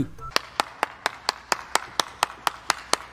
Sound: applause

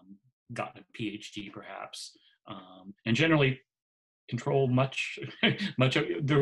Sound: laughs

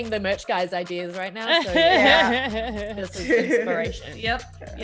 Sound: laugh

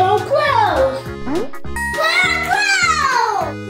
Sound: ding

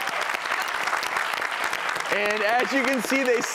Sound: clapping

